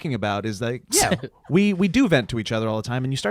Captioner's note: laughing